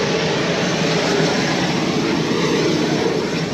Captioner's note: engine roaring